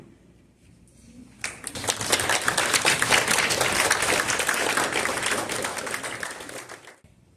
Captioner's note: applause